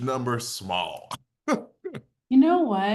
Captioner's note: chuckles